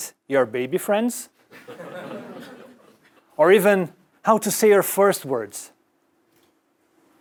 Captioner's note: laugh